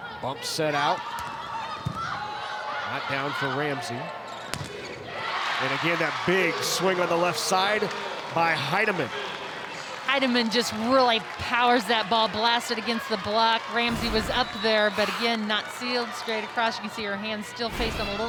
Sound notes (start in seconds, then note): 4.6 audience cheering; 4.6 ball thumping